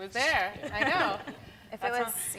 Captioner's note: laughter